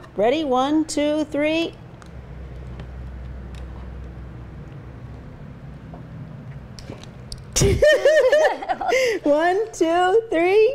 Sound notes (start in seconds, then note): 7.5 both laughing